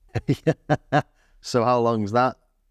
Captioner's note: laughs